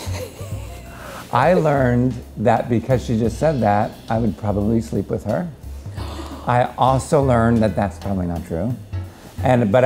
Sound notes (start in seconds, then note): 0.0 laughs; 5.8 gasps